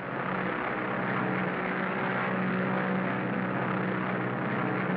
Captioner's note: plane propellers hum and buzz